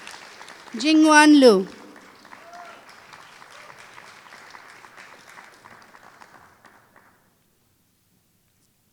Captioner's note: applause